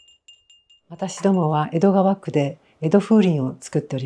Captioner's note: Edo wind chimes